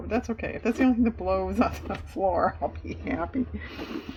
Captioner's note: laughs